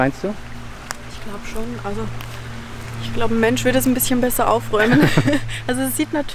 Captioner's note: laughing